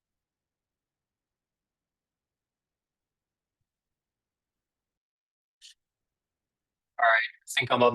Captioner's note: silence